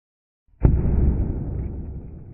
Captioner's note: blam